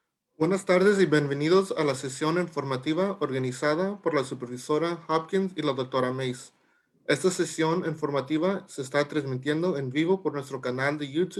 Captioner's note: Spanish